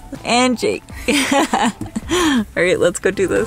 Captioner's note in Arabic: الأم تضحك